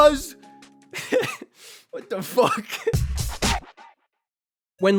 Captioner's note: laughs